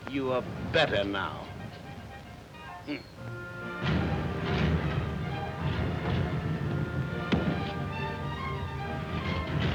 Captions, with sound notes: - You are better now? Hmm! (car engine revving) (gentle music)